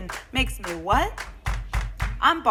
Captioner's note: clap clap clap